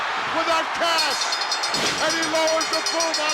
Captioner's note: bell rings